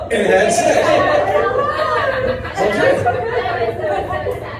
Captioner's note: laughter